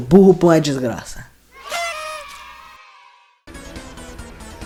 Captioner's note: sarcastic celebratory sound